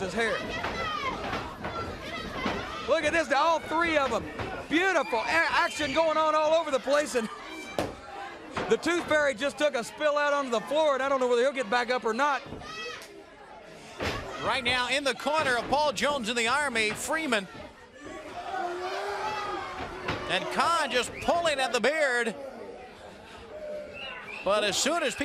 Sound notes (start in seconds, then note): 9.9 crowd chatter; 19.2 crowd chatter